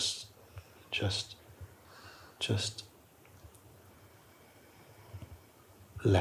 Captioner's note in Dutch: lange, langzame uitademing